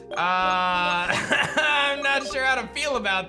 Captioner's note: laughs